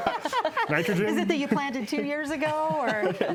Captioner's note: panel laughs